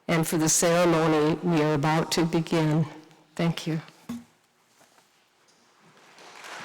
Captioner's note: applause